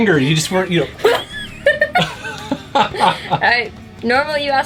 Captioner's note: laughs